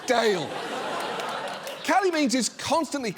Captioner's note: studio audience laughs